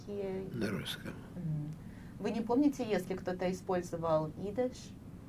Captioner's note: mumbling